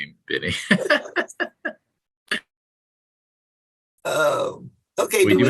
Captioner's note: laughter